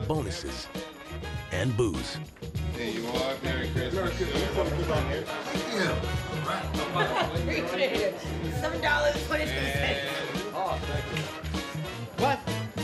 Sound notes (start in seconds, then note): 6.6 laughs